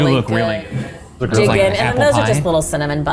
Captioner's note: house bumps